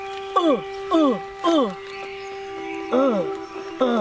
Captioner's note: ape grunting